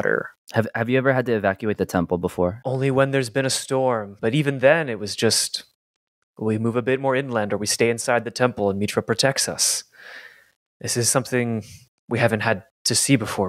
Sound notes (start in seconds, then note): none